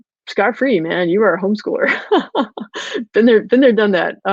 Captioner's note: laughs